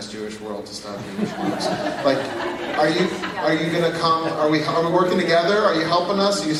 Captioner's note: laugh